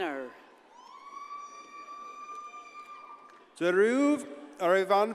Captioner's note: audience cheers and applauds